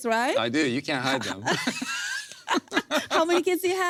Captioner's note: both laugh